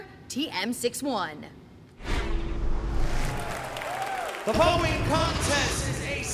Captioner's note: crowd cheering